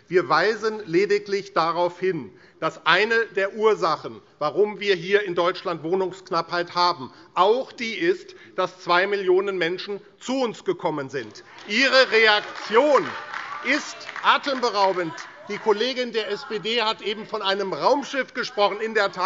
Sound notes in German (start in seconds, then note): 11.3 Beifall AfD - Zurufe SPD und DIE LINKE